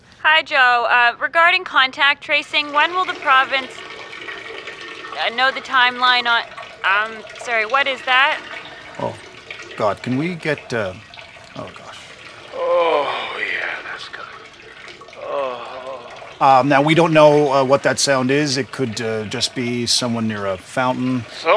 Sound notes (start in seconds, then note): 3.7 loud stream of liquid can be heard